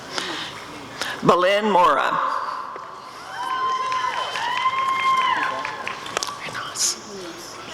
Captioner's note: applause and cheering